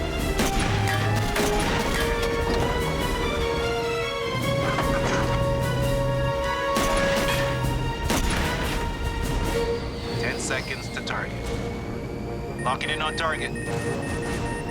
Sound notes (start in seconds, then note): 0.2 gunshots; 6.6 gunshots; 11.8 payload beeping rapidly